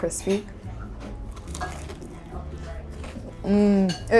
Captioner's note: gentle upbeat music; karaage crunching